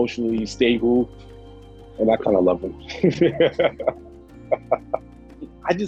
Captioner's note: laughs